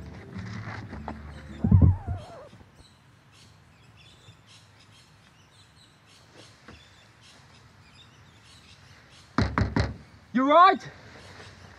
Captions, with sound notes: (needle scratches) - You all right?